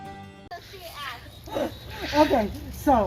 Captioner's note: children talking